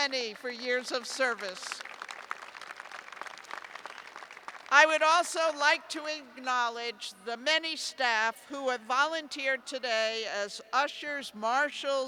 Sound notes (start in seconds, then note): 2.1 applause